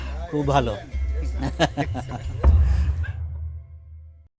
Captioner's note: foreign language